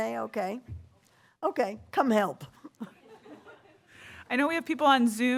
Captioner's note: laughter